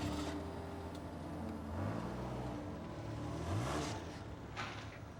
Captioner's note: car engine whirring